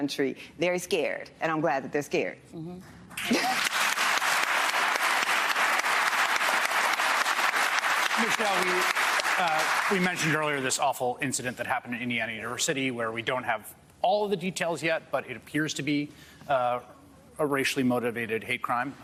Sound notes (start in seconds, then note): 5.0 applause